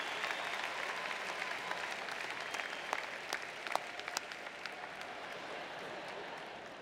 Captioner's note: applause